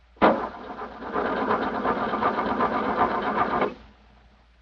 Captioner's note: ignition sputters